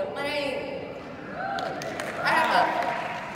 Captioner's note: audience cheering